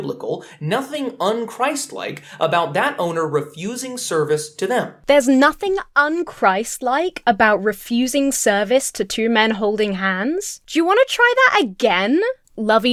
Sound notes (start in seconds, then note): none